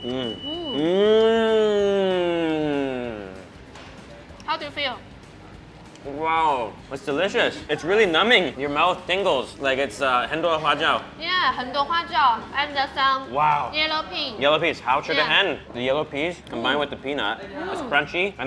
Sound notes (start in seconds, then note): 10.1 speaking Mandarin